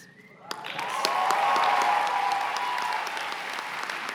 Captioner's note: cheers and applause